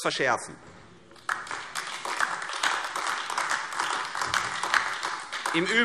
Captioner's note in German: Beifall AfD